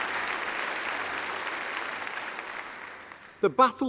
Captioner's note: applause